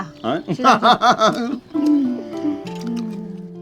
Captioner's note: both laughing